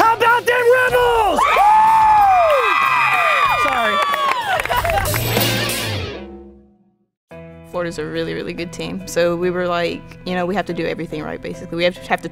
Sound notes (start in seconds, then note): 2.0 team yelling and cheering